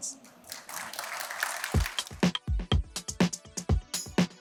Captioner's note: applause